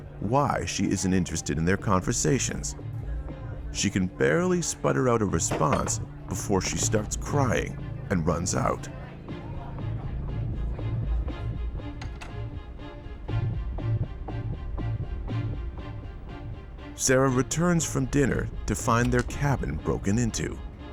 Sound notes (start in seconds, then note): 9.2 dramatic music; 11.8 door clicks